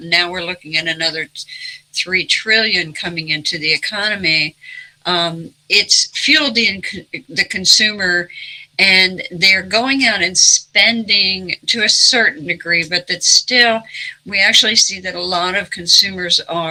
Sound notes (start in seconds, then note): none